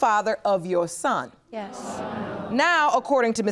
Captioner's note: audience gasps